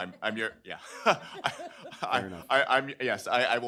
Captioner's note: chuckles